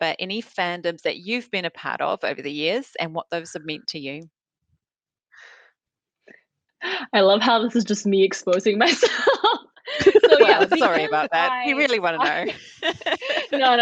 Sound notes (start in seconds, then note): 9.8 laughs